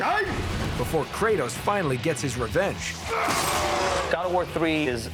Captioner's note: shouts